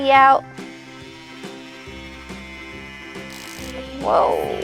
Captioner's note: drilling